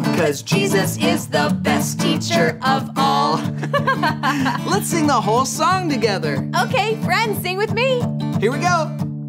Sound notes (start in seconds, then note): 3.3 laughing